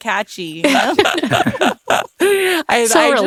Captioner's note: laughing